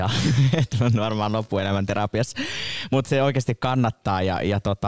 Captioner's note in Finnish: Naurahtaa